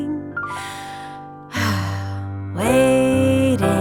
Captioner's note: sighs deeply